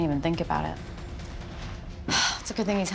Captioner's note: sighs